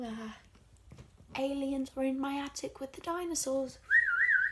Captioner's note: whistling